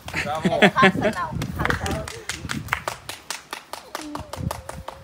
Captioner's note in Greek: χειροκρότημα